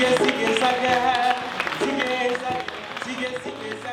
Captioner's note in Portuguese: Palmas